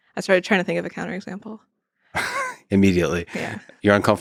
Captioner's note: chuckles